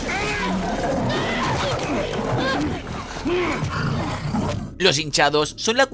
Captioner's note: scream; groan